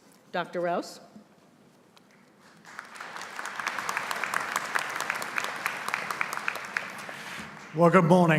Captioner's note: applause